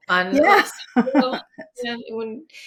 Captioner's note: laughs